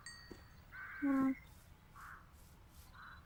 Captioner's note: crows calling